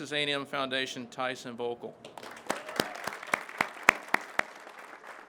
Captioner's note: crowd claps